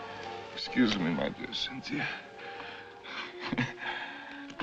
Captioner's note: chuckles